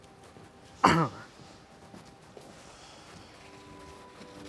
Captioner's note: throat clearing